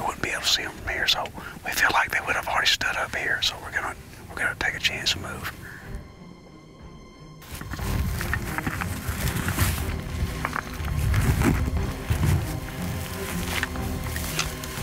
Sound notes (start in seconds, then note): 7.6 ominous tone; 9.0 rustling grass